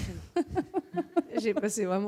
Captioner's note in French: rires